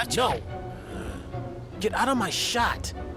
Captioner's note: groans